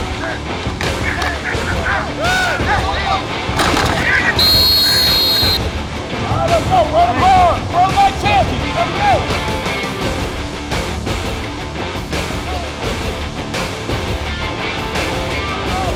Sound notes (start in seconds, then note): 0.0 rock music; 3.6 whistle blowing; 9.8 rock music